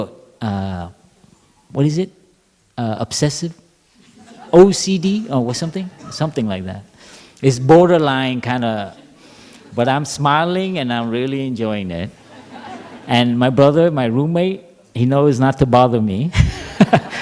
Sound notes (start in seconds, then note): 6.7 laughter